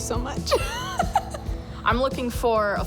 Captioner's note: giggles